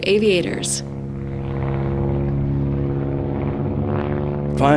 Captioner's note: plane engine